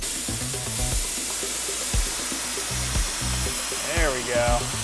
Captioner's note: spray gun spritzing